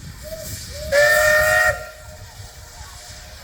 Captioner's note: train whistle